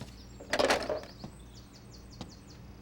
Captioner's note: hangs up telephone